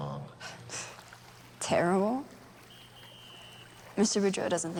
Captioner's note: scoffs